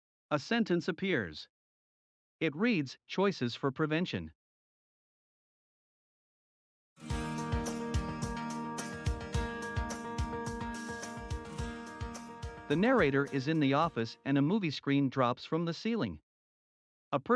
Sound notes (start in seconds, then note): 0.4 voiceover; 7.0 upbeat music; 12.8 voiceover